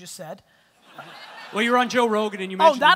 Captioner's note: audience laughter